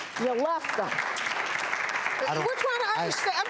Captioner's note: applause